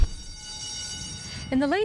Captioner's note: school bell rings